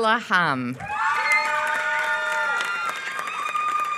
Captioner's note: applause